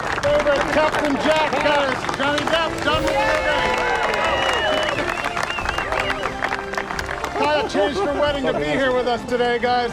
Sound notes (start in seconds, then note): 4.0 cheering continues